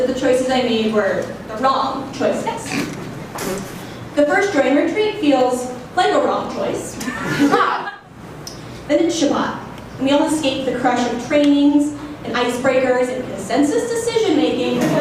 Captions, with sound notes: that the choices I made were the wrong choices. (audience laughing) The first JOIN retreat feels like a wrong choice (laughing). (audience laughing) Then it's Shabbat. We all escape the crushing trainings, and ice breakers, and consensus decision making